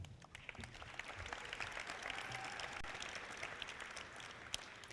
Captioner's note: audience clapping